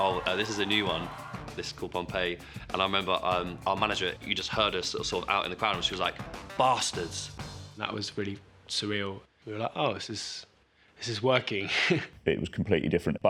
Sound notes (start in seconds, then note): 11.8 laughs